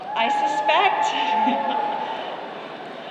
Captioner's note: applause